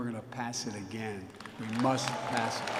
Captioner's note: applause